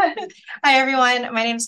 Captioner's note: laughs